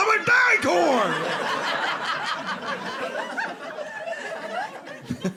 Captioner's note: audience laughing